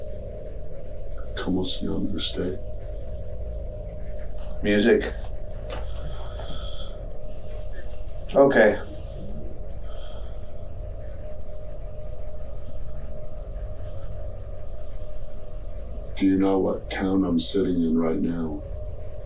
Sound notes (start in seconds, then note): 1.2 speaking spanish